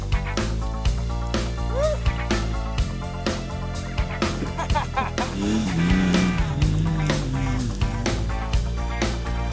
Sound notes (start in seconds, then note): 4.1 laughing; 5.6 motorcycle revving over music